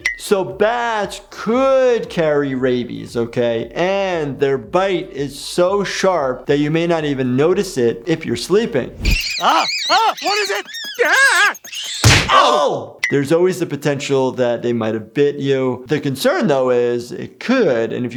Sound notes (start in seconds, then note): 9.0 bat squeaking; 11.1 Peter yells